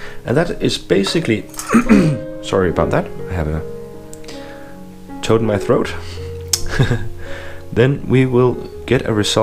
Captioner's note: cough